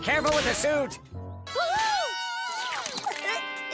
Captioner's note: slurps and laughs